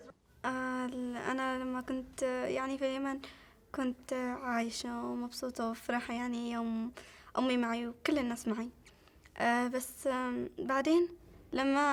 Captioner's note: speaking Arabic